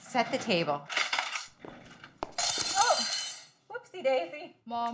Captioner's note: cutlery falling